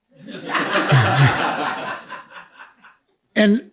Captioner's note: laughs